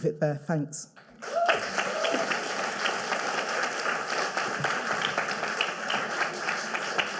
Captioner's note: audience cheering and applauding